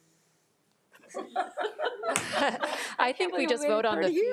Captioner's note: all laughing